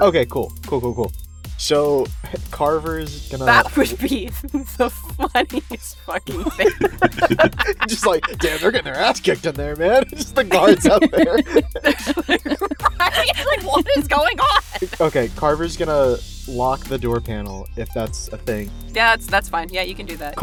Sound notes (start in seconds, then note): 4.2 laughing; 7.3 laughs